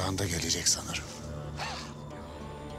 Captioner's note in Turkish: Dragos güldü